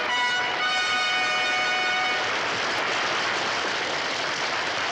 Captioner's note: triumphant fanfare music; audience applauds